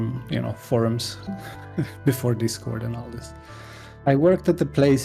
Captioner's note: chuckle